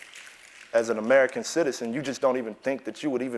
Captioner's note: applause